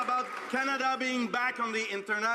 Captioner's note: some Applause